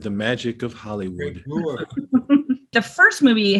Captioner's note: laughter